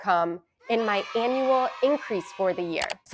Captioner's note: children cheering